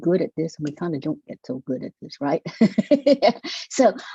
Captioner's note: laughing